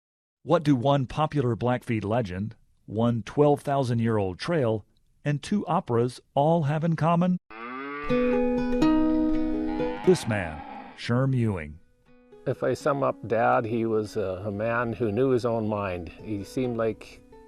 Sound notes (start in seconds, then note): 8.1 gentle music; 9.4 cows mooing